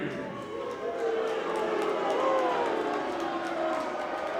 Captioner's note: crowd booing